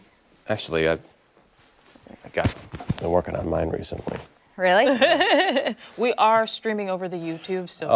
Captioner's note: laughter